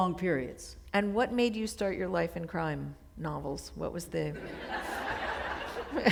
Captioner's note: chuckle